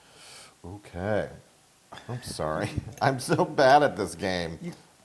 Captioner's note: laugh